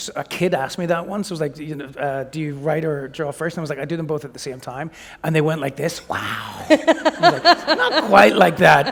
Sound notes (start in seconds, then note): 6.6 laughter